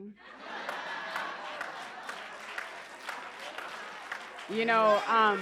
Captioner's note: applause and laughter